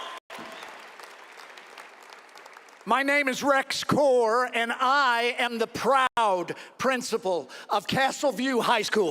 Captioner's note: cheering and applause